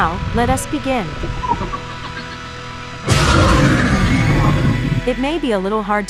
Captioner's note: beep